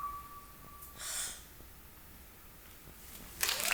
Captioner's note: performer gasps; audience clapping and cheering